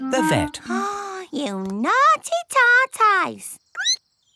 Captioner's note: gasps; squeaks